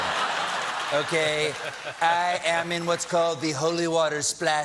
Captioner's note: laughter